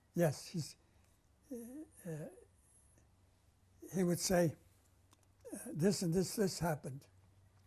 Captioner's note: pauses for 3 seconds